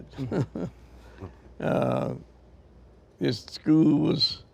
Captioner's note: members laugh